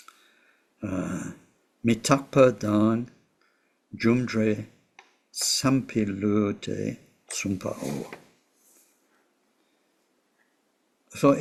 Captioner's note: tibetan